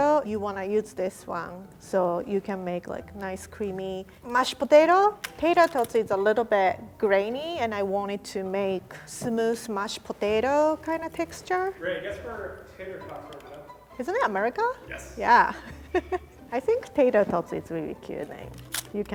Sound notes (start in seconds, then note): 15.5 chuckles